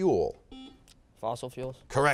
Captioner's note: beeping